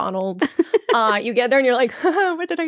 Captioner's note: laughing